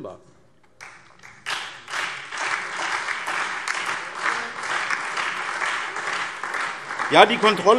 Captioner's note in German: Beifall SPD, Freie Demokraten und DIE LINKE